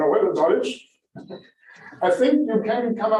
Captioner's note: laughter